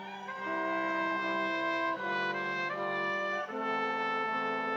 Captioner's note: audience cheering continues